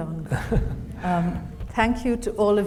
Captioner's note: Hisham chuckles